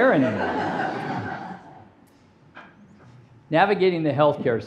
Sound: audience laughing

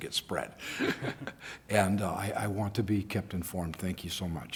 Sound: laughter

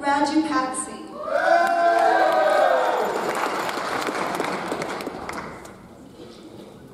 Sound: audience cheers; audience applauds

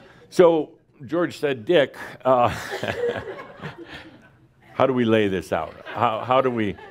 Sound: Adamus chuckles

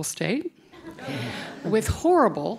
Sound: audience laughing

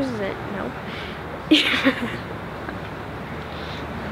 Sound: laughter

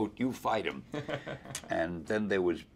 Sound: interviewer laughs

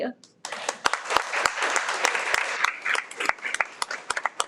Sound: everyone applauds

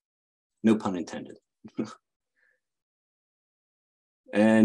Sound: chuckles

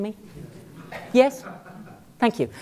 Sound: laugh

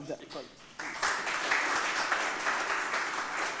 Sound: applause

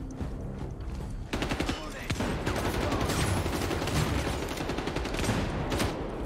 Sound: guns shoot rapidly

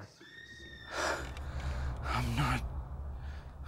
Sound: distant screaming

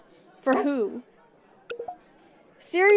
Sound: none

